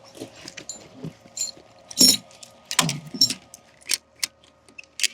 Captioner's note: metal clanking; ratchet buckle clicking